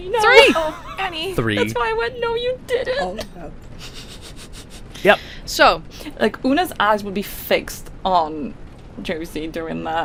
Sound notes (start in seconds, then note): 0.3 laughing